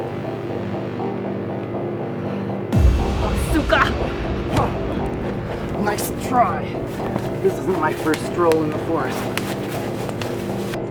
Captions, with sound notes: [suspenseful music] [Nancy speaks Russian] - Nice try. This isn't my first stroll in the forest.